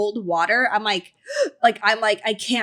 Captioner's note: gasping